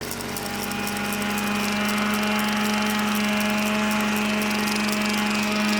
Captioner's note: sanding Sound